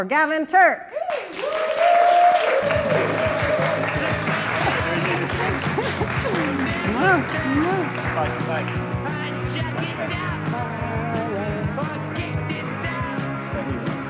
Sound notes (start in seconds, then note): 1.0 applause